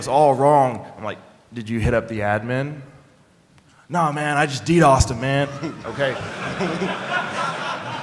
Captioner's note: laughter